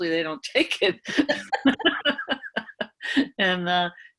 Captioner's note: laughing